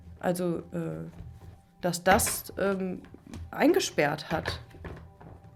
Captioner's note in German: none